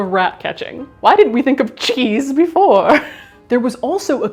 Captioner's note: chuckles